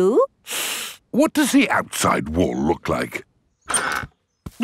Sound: inhales sharply

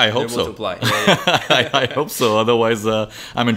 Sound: laughs

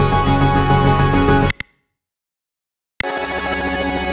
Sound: music stops, silence; music rewinds

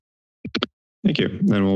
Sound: mic thumps

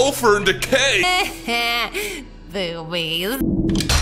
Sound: laughs

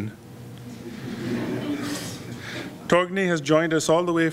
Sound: audience chuckles

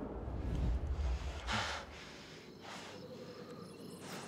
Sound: heavy breaths

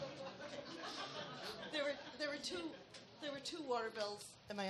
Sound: audience laughs

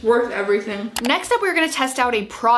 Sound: mouse clicks

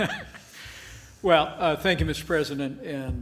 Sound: laughs

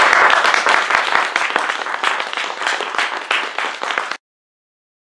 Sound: applause

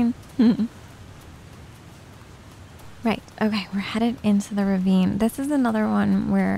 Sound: giggles

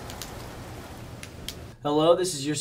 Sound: flashlight clicks off; flashlight clicks on

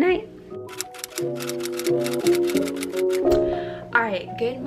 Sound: typewriter clicks

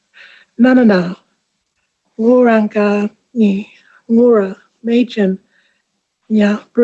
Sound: ngaanyatjarra language spoken

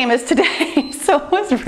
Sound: timer beeps

